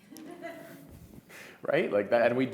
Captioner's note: audience laugh